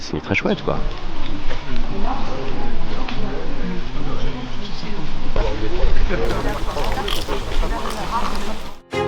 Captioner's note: nature sound